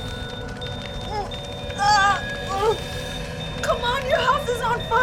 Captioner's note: jogger grunting and groaning